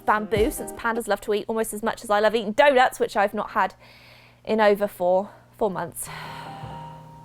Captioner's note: sighs